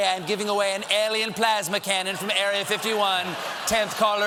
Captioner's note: cheers and applause